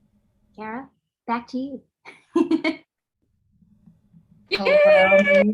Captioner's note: laughs